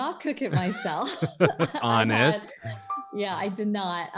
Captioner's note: laughs